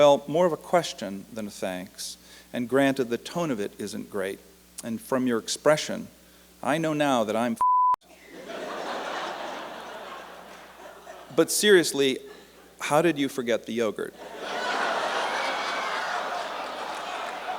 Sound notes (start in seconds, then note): 8.1 laughter; 16.3 laughter and applause